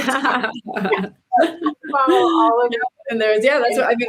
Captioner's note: presenters laughing